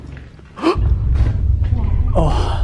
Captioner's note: scary sound